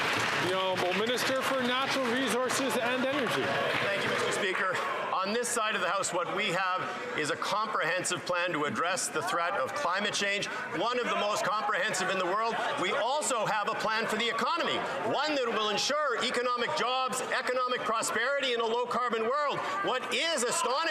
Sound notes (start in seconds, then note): 3.7 some Applause